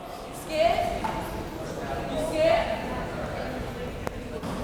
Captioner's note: crowd members talking